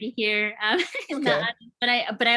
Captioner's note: laughs